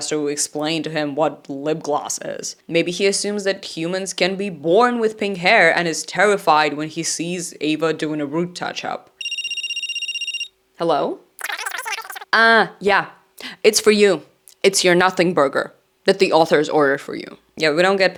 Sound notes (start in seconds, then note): 9.2 phone ringing; 11.4 cartoon speaking sounds